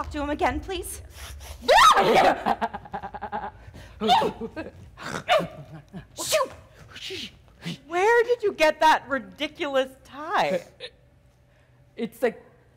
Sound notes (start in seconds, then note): 1.6 Zina loudly shrieks; 3.1 Sharik softly chuckling